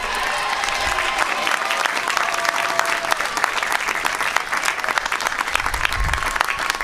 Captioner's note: applause